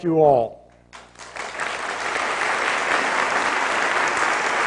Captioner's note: applause